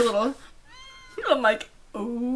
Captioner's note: girl squealing